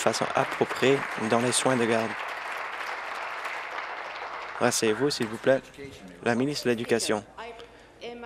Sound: applause

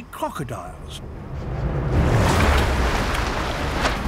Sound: splashing

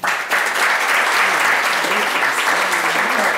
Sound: applause

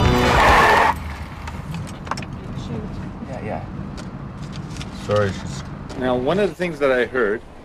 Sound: squealing tires

